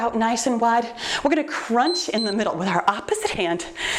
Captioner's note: timer beeps